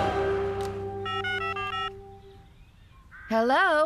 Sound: cell Phone Tones

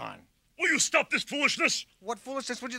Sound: yells

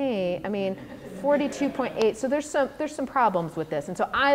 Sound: laughter

